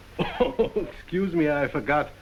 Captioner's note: coughs